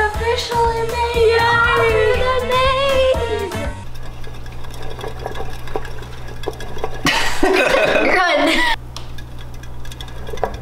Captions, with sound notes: - He has officially made out of the maze! (hamster wheel turning) (laughing)